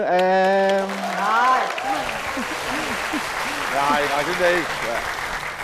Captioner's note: applause